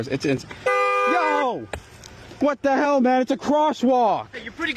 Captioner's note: honking